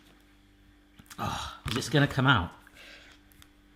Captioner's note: groans